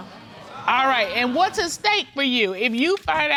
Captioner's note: audience exclaims